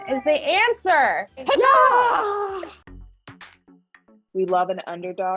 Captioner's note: all cheer